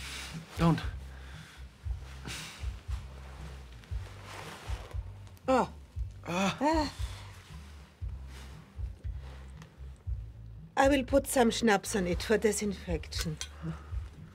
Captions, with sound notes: Don't. [both groan] I will put some schnapps on it for disinfection.